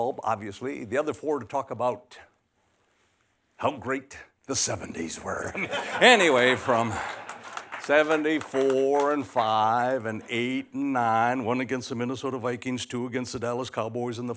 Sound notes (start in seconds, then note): 5.4 laughter